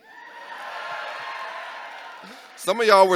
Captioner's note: audience cheering